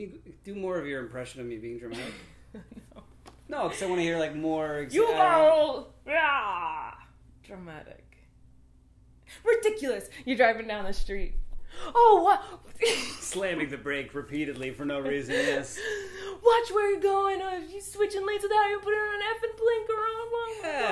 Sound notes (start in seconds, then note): 6.1 growls; 13.0 laughs